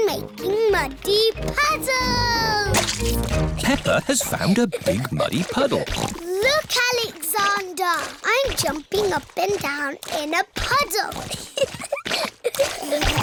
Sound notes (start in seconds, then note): 4.8 snorts; 12.0 giggling